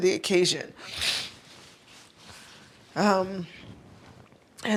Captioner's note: snuffling